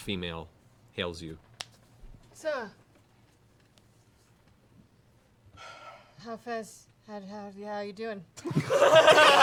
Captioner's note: stuttering